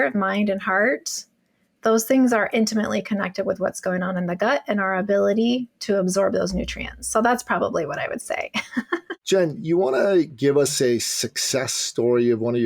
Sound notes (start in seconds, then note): 8.6 laughs